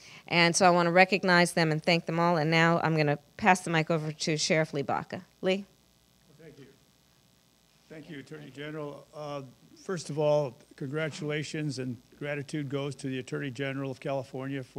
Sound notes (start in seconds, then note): 5.1 pause